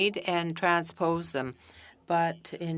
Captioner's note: speaking French